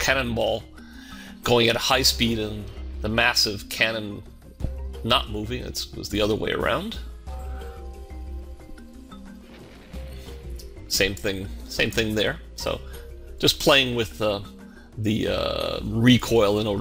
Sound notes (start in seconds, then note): 9.2 explosion